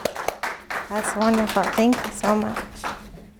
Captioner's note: applause